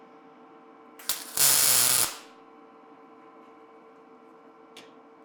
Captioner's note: welder buzzing